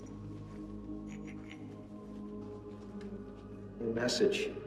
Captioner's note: stones clinking